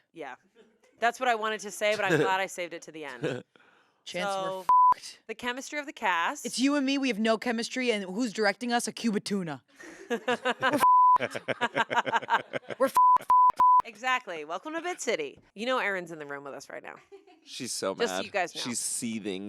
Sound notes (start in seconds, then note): 4.6 beep; 10.8 beep; 11.2 everyone laughs; 12.9 beep